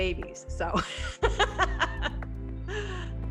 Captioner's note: laughs